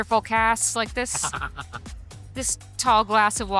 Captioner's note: laughs